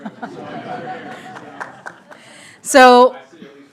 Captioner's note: audience laughing